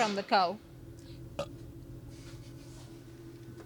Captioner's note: burp